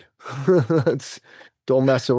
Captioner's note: laughs